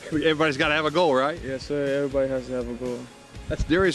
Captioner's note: laughter